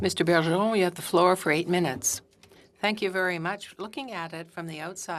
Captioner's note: speaking French